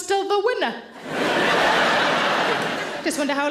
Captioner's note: audience laughter